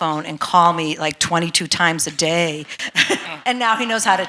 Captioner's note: chuckles